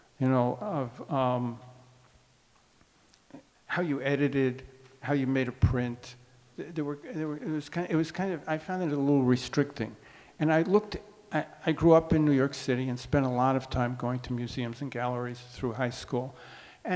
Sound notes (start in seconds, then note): none